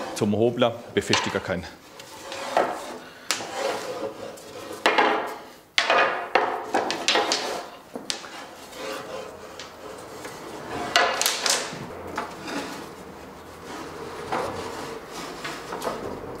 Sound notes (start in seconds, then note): 2.2 rattling